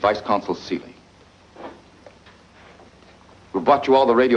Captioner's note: none